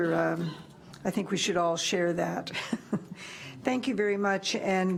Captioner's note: chuckles